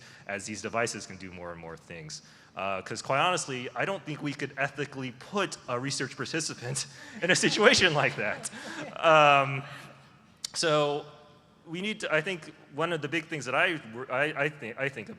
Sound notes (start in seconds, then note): 7.2 laughter